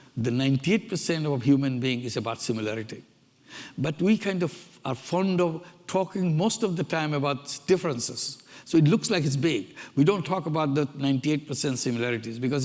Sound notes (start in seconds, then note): none